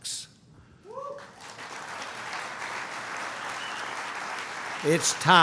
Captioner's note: applause